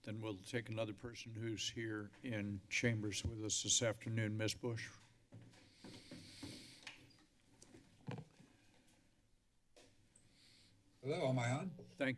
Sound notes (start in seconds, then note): 5.3 footsteps; 5.6 deep breaths